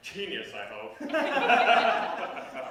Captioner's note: laughter